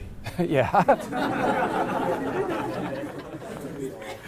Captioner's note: laughter